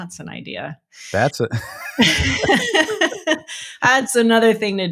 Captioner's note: both laughing